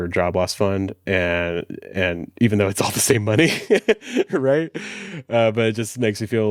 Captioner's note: laughs